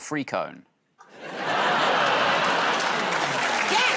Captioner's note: laughter